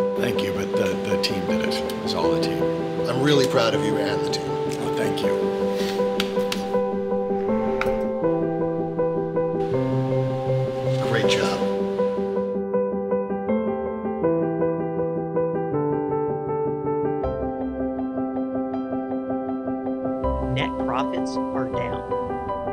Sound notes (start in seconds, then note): 5.8 pats